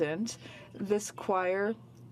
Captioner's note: speaking French